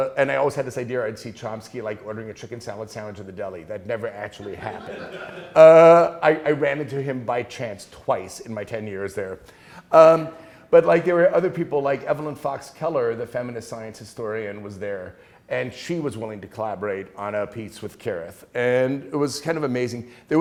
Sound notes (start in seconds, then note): 4.5 class laughing